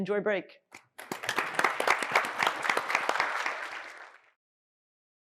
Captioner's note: applause